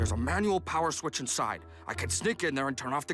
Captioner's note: whispering